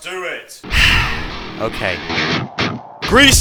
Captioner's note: sigh